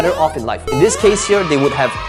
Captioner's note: crowd cheering